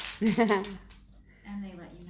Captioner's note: laughs